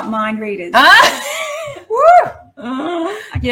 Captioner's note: laughs